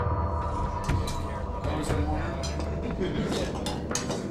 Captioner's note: contestants chattering